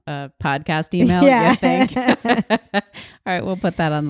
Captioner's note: laughs